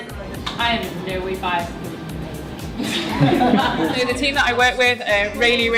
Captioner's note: laughter